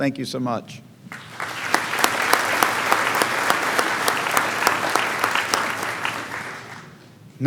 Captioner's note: clapping